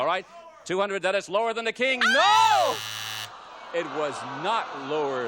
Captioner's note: audience groans